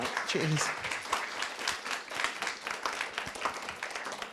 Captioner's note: audience applauding